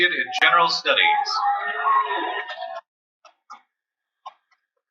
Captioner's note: cheering